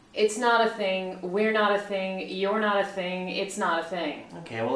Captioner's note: none